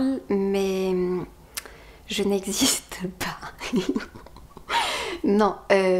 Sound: laugh

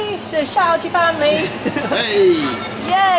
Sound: laughter

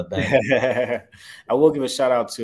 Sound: chuckles

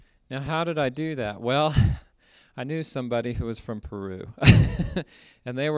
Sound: laughter

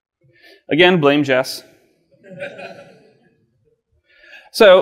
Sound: audience laughs

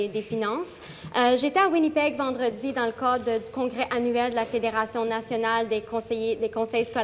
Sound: speaking in French

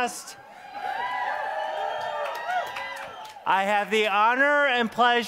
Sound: applause

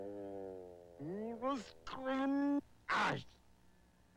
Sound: complaining

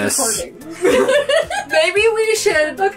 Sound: laughs

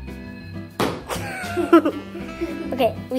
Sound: monkey noise in background; laughing

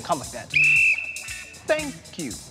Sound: whistle blows

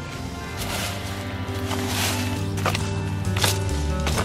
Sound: leaves shuffling

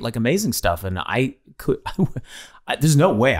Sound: Glenn laughing

